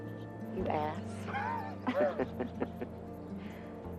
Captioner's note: both laughing